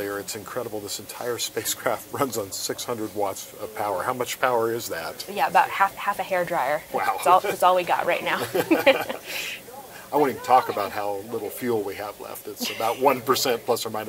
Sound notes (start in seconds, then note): 8.3 both laugh